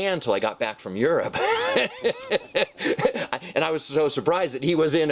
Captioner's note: laughs